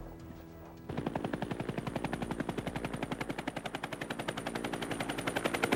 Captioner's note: helicopter buzzing